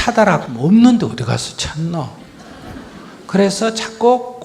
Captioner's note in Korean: 청중 웃음